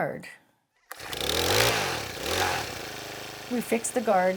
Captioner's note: equipment rumbling